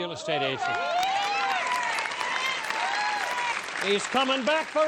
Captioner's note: applause